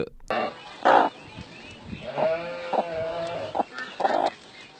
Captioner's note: laughing; cow mooing